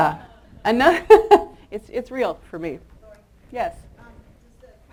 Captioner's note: chuckles